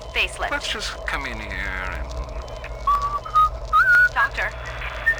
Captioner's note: starts whistling